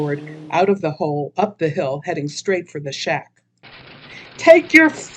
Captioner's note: sound: car driving away; sound: old car engine